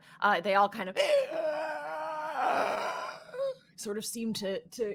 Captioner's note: screeches